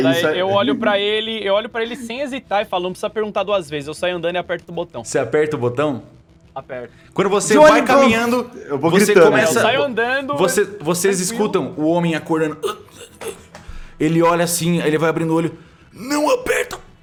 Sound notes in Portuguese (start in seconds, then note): 12.6 grunhidos